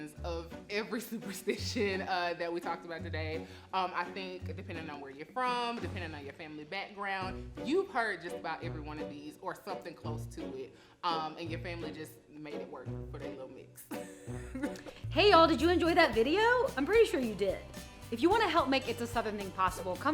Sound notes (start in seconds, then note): 13.9 laughing; 15.1 creepy music